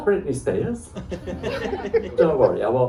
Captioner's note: laughter